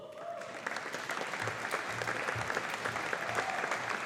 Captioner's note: audience applauding